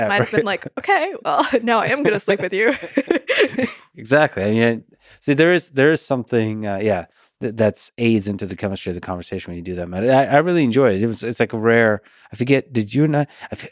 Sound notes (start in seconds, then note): 1.8 both laughing